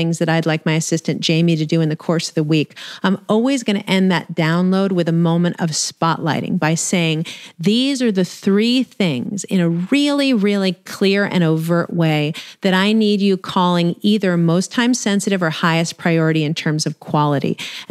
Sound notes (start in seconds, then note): none